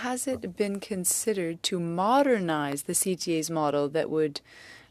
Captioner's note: speaking French